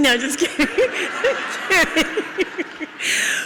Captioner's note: audience laughs